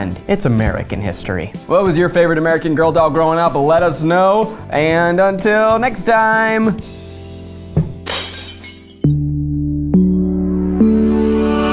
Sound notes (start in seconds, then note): 8.0 glass shatters; 9.0 gentle music